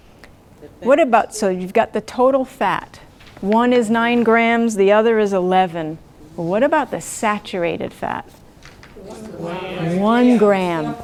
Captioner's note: audience responds